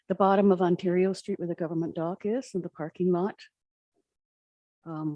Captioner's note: none